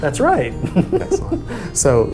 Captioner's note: laughs